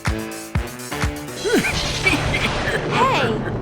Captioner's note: evil laughter